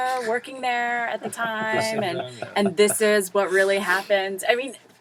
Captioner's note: laugh